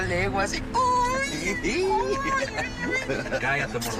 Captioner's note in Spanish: Exclamaciones y risas